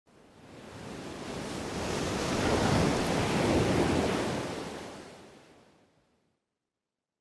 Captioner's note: waves splashing